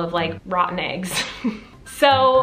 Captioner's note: giggles